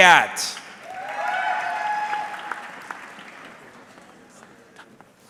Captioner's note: audience clapping